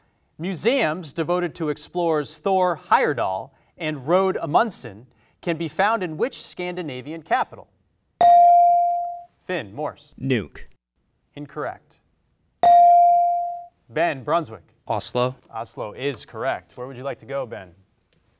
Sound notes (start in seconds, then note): 8.2 bell rings; 12.6 bell rings